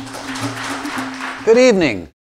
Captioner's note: audience clapping